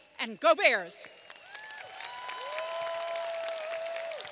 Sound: applause

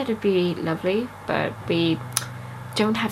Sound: tuts

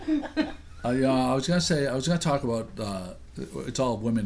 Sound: voiceover

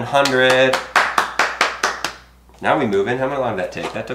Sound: clapping

